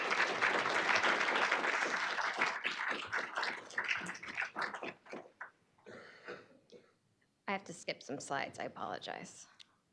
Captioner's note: applause